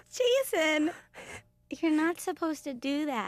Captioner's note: laughing